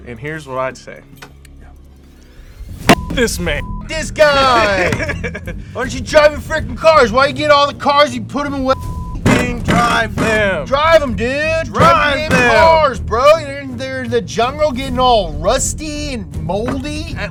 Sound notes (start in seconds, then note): 2.8 beep; 4.3 laughs; 8.7 beep